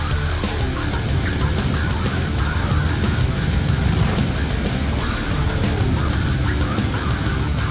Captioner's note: intense rock music continues; motorbike engines roaring